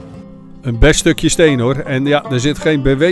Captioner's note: voiceover